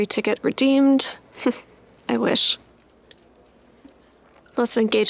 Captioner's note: chuckles